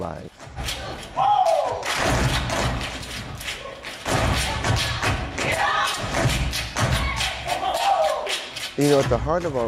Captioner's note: performers stepping and vocalizing